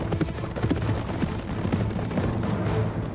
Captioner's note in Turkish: At nalı sesleri